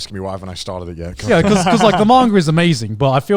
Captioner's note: laughing